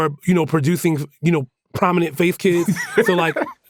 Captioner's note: laughs